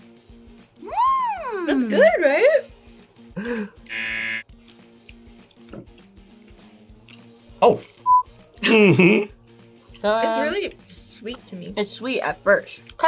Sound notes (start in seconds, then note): 0.7 surprised; 3.8 buzzer